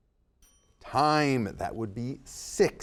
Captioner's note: timer chimes